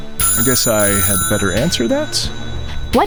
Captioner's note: ringing